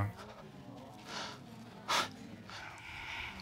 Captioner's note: baker sniffling